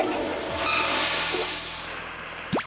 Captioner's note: toilet flush